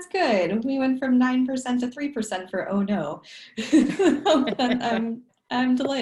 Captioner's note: laughs